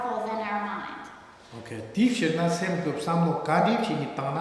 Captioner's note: speaking tibetan